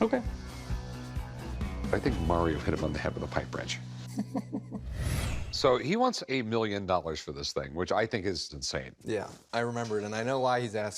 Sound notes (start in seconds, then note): 4.1 laughs